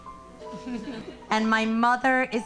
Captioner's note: audience laughing